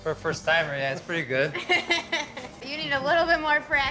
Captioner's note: chuckling